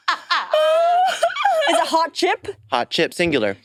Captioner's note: participants laughing